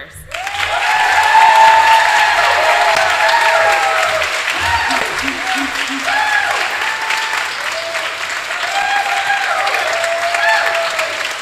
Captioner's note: applause